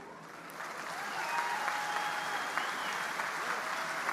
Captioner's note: audience applauding